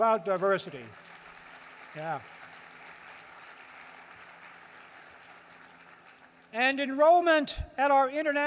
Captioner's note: applause